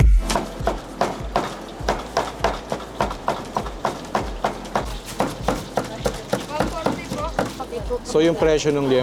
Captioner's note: upbeat music; knife hitting chopping block